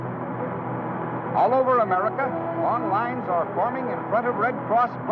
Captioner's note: radio Announcer